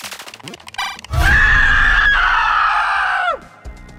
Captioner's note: distant screaming